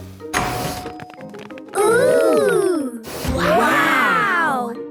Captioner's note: door dings open